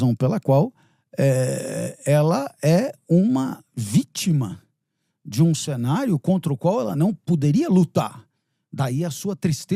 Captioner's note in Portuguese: limpando a garganta